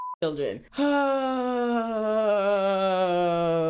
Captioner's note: sighs